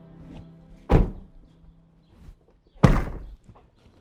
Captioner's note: doors banging